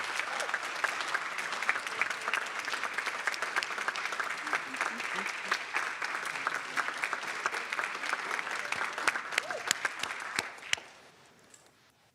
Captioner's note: applause